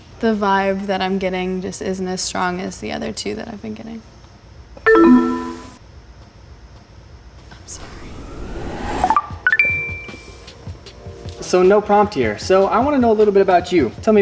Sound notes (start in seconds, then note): 4.9 chime; 9.2 relaxing music; 9.5 chime